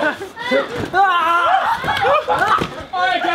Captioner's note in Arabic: يصرخ